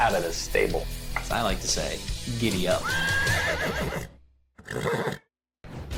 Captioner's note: horse neighs